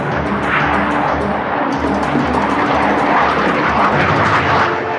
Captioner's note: airplane roaring